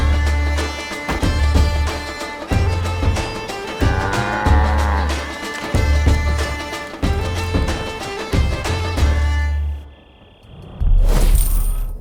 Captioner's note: helicopter whirring